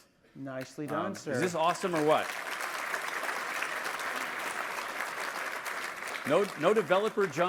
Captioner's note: applause